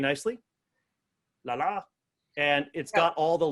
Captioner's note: mimics cartoon sounds